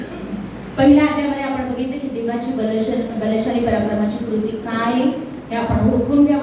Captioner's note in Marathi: घसा साफ करणे